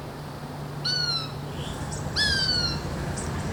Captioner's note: birds calling